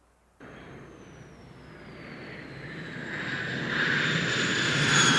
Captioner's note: airplane whooshing